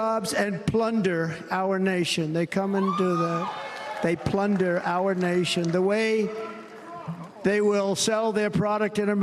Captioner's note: cheers and applause